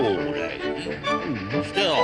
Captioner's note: Toad gulps